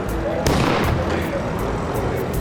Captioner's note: car backfires